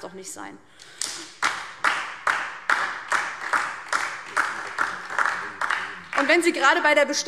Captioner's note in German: Beifall DIE LINKE und vereinzelt SPD